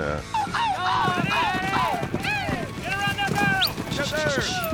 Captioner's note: cheering